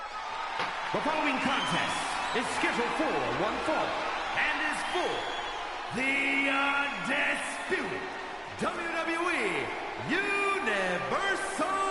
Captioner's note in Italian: Applauso